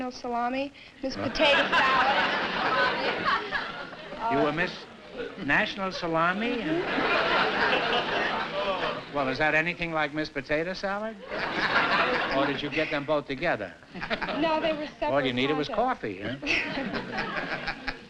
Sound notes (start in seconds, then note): 1.2 laughter